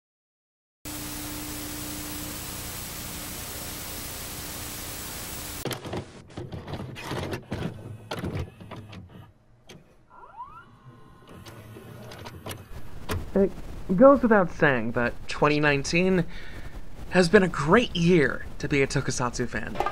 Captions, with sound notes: [TV Static] [VCR Tape Loading] It goes without saying that 2019 has been a great year to be a tokusatsu fan.